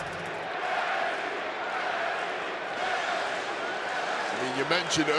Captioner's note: audience chanting